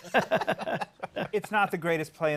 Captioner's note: laughter